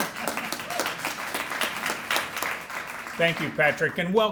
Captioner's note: applause